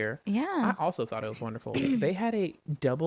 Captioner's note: clears throat